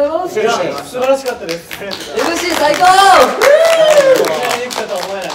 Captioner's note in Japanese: 拍手